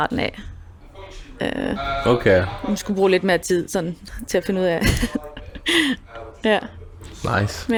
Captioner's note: laughs